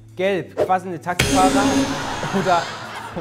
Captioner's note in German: Gelächter